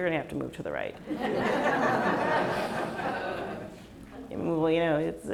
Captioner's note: laughs